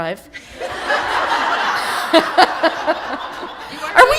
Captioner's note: laughter